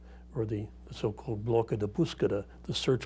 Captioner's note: speaking in non-English